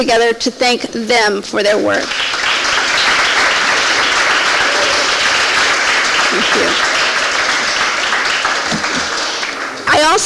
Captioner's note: audience Applaud